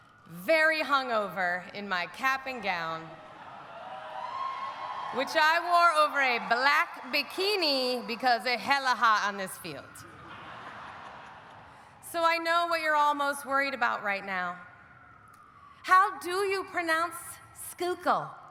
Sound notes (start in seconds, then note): 3.1 audience cheering; 10.1 audience laughing